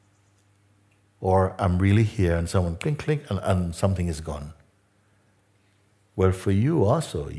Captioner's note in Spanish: click